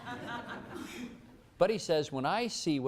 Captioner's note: laughter